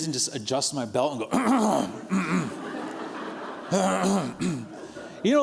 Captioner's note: clearing throat